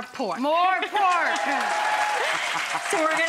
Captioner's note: audience applauding; laughing